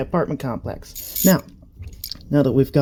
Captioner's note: ratchet ASMR